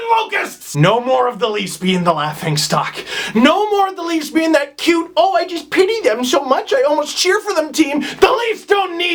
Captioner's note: mocking voice